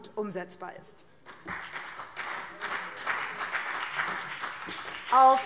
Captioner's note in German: Beifall BÜNDNIS 90/DIE GRÜNEN